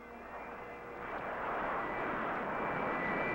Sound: engine roars

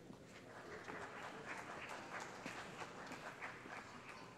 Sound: applause

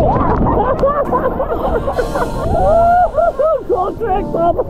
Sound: everyone laughing

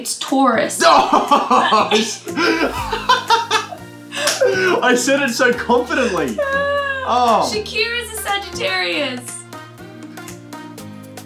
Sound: laughter

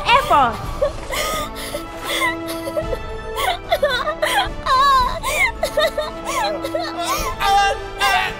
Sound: joyful sobs

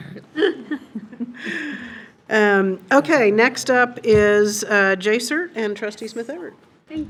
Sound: laughs

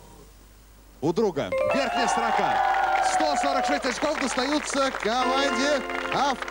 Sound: applause

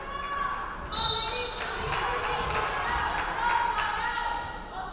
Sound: referee whistling

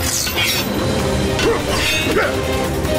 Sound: grunting

